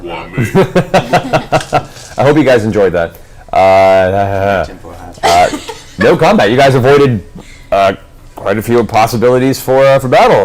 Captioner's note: laughs